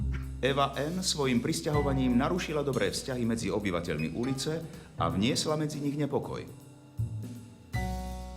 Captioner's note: voice of reporter